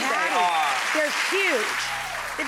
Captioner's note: cheers and applause